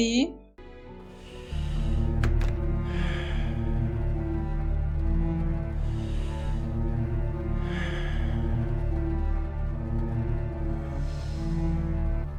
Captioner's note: heavy breathing